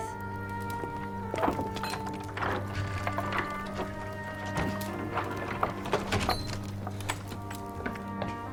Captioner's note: door opening